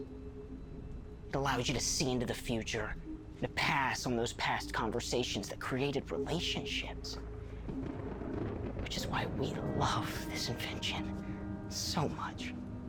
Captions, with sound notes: It allows you to see into the future and to pass on those past conversations that created relationships, (thunder rumbling) which is why we love this invention so much.